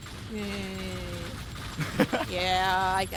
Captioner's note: laughs